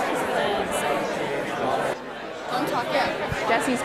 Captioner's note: none